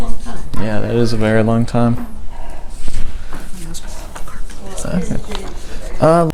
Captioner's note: whispers to ask him about the carpet business